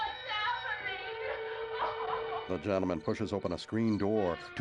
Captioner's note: sobbing; crickets chirping